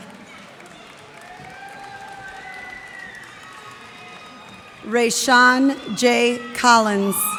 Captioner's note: cheers and applause